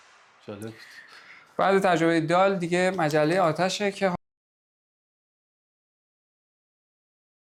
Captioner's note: fire